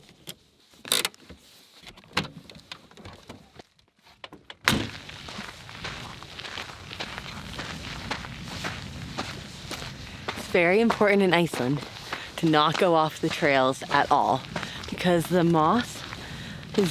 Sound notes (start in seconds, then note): 0.2 cranking; 4.6 slamming; 5.8 dirt crunching